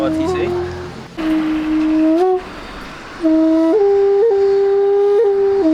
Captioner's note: speaking in English